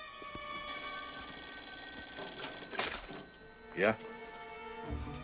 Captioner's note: telephone rings